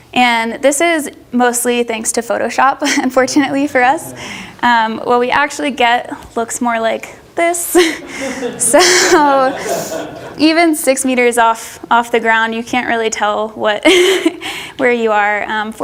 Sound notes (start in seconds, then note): 2.8 audience laughs; 7.6 laughs; 7.7 audience laughs